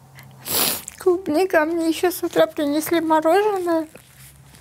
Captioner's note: quietly; sniffs